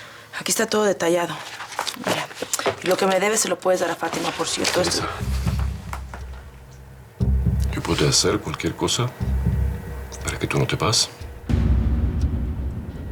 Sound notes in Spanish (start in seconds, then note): none